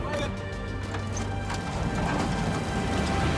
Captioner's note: crashing